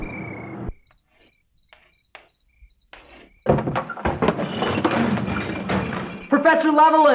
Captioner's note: crickets chirping; chalk scraping